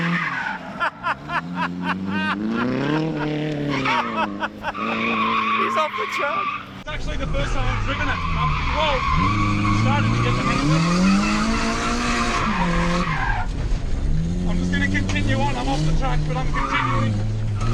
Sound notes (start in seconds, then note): 0.6 laughing